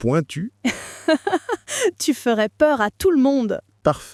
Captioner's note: laughing